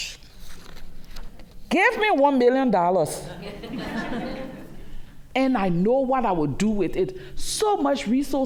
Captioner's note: laughter